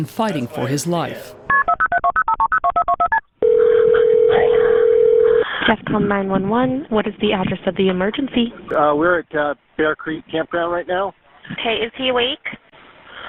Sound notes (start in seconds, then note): 3.4 phone dialing; 5.4 phone ringing